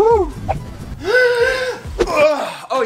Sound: breathing deeply

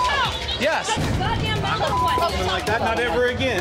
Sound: beep; beep

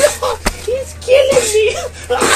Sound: crying

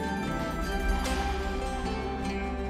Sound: whip cracking

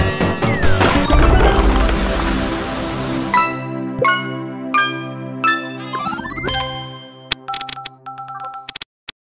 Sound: among us sound effects

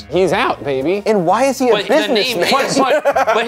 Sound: laughs

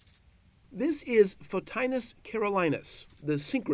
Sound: crickets chirping; voiceover

